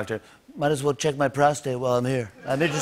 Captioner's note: As Trump; laughter